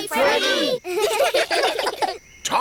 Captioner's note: children giggle